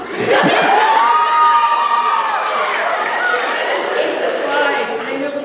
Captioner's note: laughter